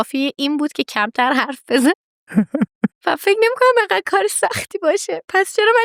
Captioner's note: laughs